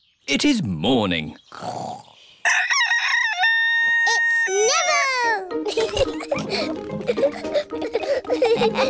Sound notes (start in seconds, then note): 2.4 neville crows; 5.6 both giggling